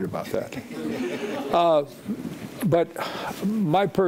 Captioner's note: audience laughing